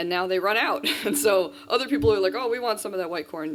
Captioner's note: laughs